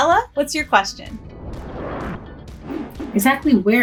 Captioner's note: logo Whooshes